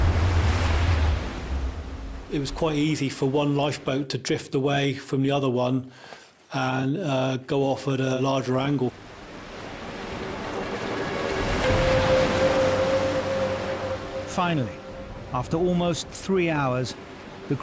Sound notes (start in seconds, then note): 11.1 tense music; 11.1 waves crashing